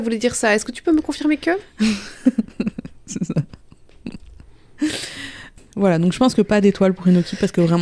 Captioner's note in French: rire